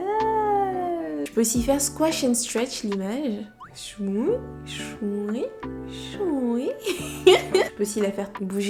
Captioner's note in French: rires